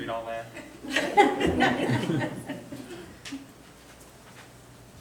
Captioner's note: all laughing